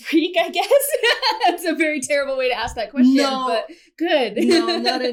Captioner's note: laugher